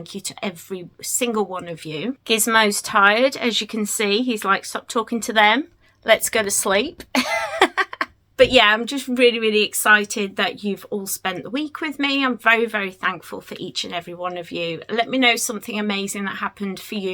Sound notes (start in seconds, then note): 7.1 laughs